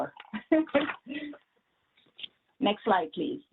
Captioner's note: laughs